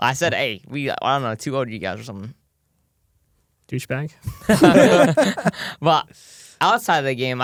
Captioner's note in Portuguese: risos